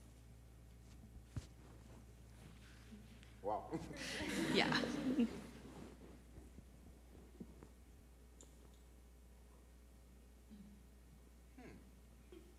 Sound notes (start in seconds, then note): 3.8 laughs; 3.9 audience laughs